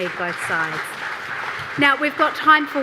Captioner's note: audience applauding